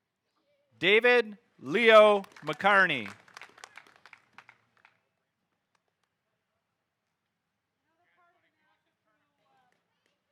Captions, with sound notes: David Leo McCarney. (audience applauding)